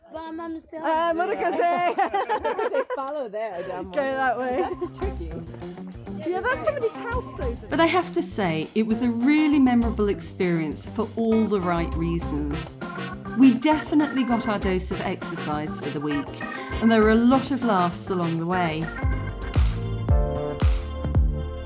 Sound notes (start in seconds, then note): 6.1 laughing